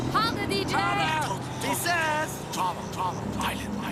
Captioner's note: whispering